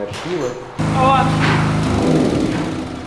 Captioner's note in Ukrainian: Звук генератора